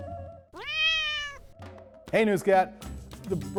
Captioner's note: cat meowing